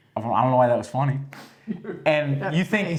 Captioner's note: laugh